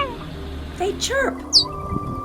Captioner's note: chirp